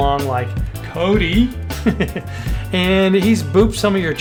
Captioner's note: laughs